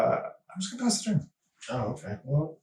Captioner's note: all laughing